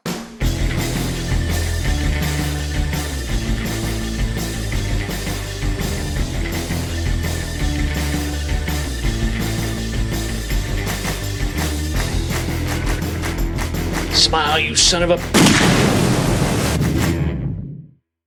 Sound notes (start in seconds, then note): 0.2 upbeat music; 15.3 gunshot